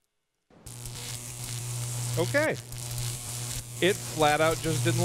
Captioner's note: electricity buzzing